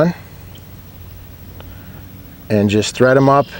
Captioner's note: nature sounds